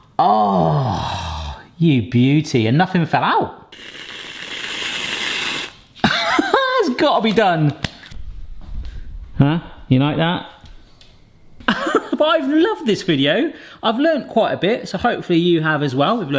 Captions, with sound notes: Oh, you beauty, and nothing fell out. (cream whooshing) (laughs) It's gotta be done. Huh, you like that? (laughs) I've loved this video. I've learned quite a bit, so hopefully, you have as well.